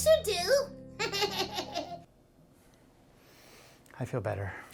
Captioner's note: chuckles